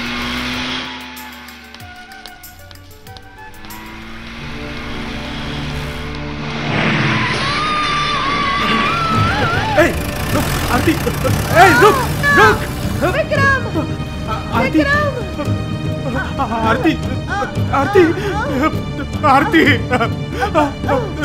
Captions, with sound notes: [Screams] Hey! Hey! Stop! Aarti.. Stop! Stop! - Vikram! Vikram! Vikram! Arati! Arati! Arati! - Vikram..